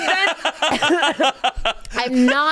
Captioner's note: hosts laughing